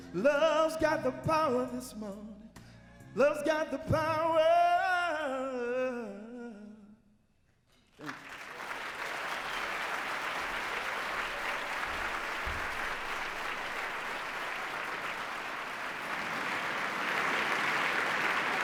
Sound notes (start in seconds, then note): 8.3 applause